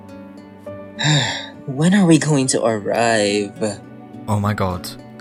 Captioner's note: sighs